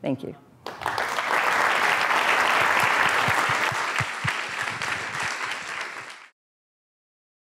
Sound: applause

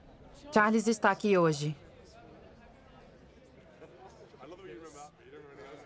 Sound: soft talking

